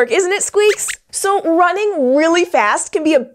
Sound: squeaks squeaks

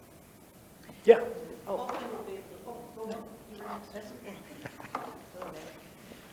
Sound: member speaks faintly

